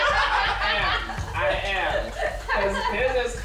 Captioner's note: everyone laughing